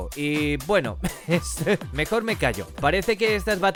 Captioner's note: laughs